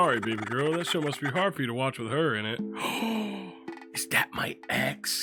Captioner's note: gasps